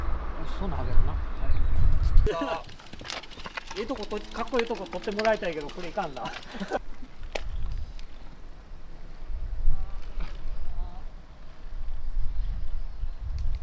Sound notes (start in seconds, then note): 7.1 laugh